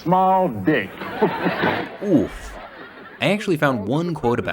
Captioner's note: audience laughing